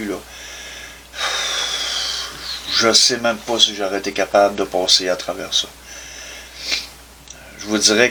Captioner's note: sigh of discouragement